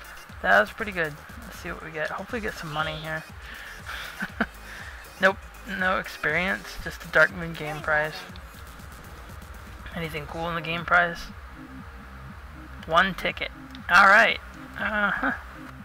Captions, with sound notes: That's pretty good. Let's see what we get, hopefully we get some money, here... [Laughing] Nope. No experience? Just a Darkmoon game prize... Anything cool in the game prize? One ticket. Allright. Uh-huh...